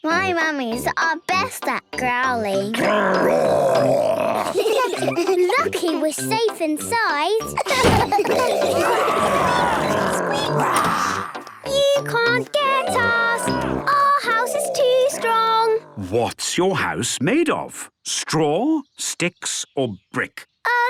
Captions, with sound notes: - My mummies are the best at growling! (growls) (giggling) - Lucky we're safe inside! (growls, snorts) - Squeak! Squeak! - You can't get us! Our house is too strong! - What's your house made of? Straw, sticks or brick?